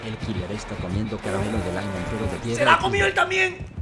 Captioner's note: spanish farting noises